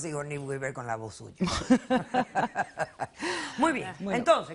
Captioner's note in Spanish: Risas